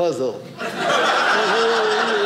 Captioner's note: audience laughing